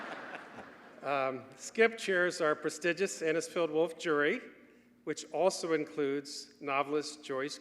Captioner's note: laughter